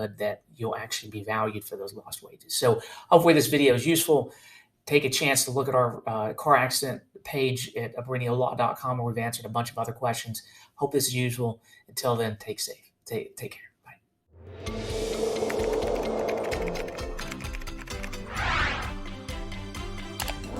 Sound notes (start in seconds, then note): 14.4 air whooshing; 14.7 bright music; 16.2 keyboard clattering; 18.1 air whooshing; 20.2 mouse clicks